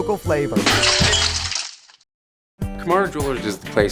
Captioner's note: glass shattering